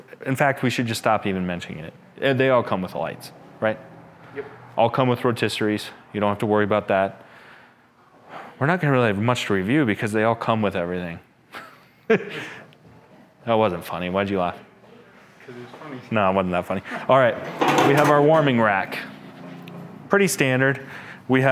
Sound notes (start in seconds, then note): 11.6 laughs